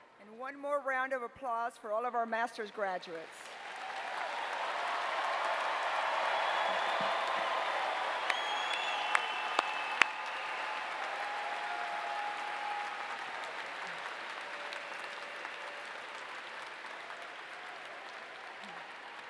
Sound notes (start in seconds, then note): 3.8 applause